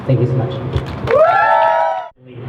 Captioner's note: crowd cheers